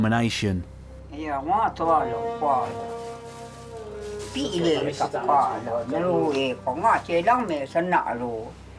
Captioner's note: Chinese spoken audio